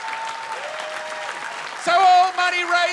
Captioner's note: laughter and applause; people cheer